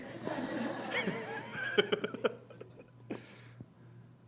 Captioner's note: laughter